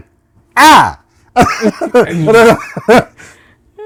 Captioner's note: laughter